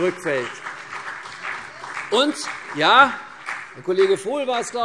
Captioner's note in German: Beifall CDU und BÜNDNIS 90/DIE GRÜNEN